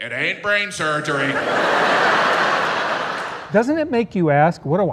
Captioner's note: crowd laughing